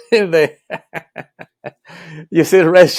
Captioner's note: laughing